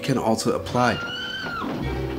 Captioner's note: screaming